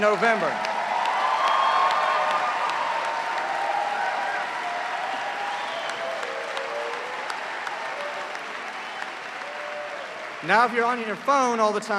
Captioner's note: cheers and applause